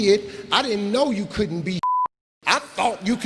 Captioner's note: beeping